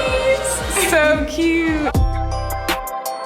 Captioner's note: guest chuckles; gentle instrumental music